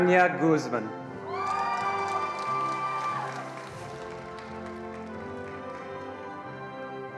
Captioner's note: attendees cheering and applauding